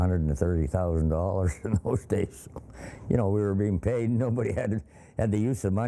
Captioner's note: laughs